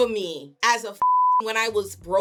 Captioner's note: beep